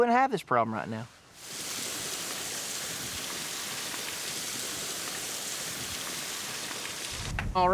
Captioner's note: water gushes, slowly stops; claps